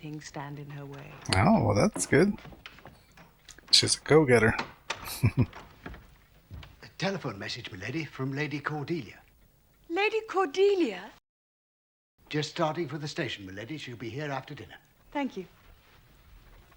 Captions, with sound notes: Oh, well, that's good. She's a go-getter. [Chuckling]